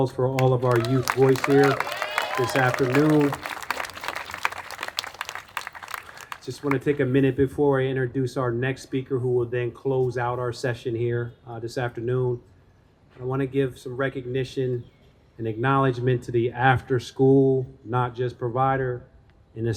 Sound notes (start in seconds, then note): 3.7 attendees applauding